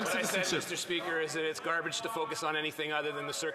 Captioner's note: some Applause